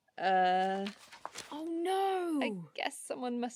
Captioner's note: paper rustling